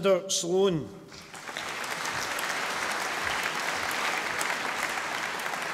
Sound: audience applauding

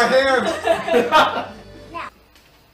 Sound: laugh

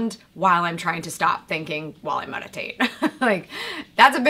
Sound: chuckles

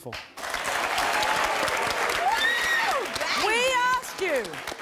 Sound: audience clapping

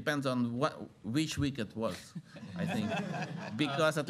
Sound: laughter

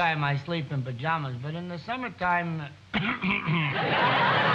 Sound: clears throat

